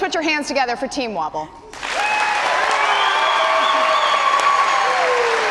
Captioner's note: cheers and applause